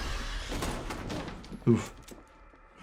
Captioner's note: gun fires